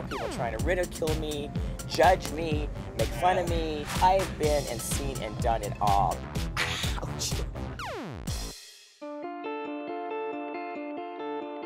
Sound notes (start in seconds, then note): 6.1 laughing